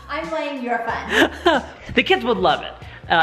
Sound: laughs

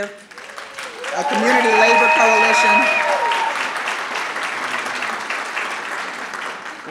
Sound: audience cheering

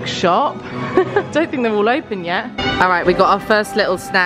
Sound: laughs

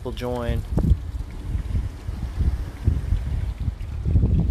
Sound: splash

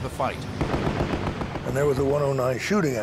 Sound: gunshots

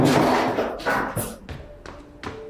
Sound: chair rustling; footsteps; mysterious music

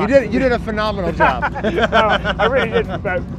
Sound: both chuckle

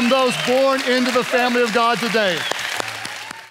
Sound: congregation applauding

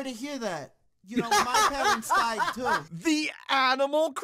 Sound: laughter

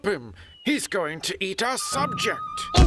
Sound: none

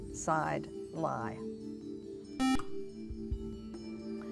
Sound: buzzer

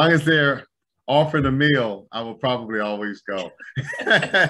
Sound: overlapping Laughter

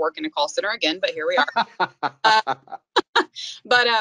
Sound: both laughing

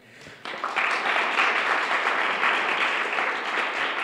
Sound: applause

